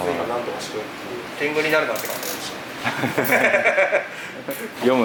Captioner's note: laughs